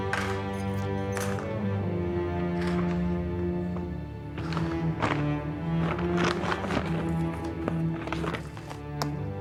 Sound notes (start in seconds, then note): 0.1 keys jingle; 1.1 sunglasses thud; 4.1 bag rustles